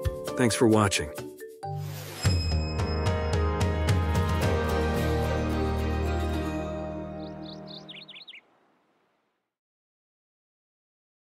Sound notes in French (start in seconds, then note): 1.7 logo sonore; 6.3 gazouillis d'oiseaux